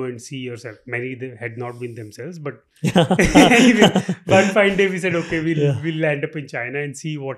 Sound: laughing

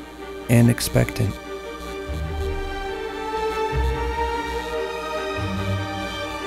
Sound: buzzing

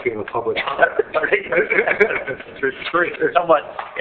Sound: laughs

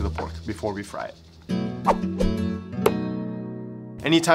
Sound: bright music; air whooshing

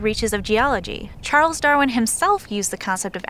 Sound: low, slow motion impact

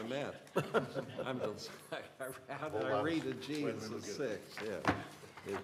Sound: laughter

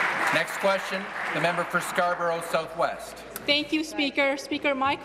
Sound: applause

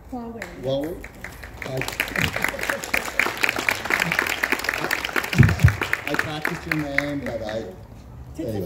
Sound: crowd claps

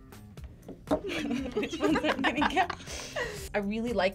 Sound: both laugh

